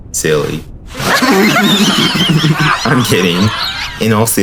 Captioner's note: another goofy laughter